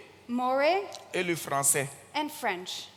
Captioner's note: continues in French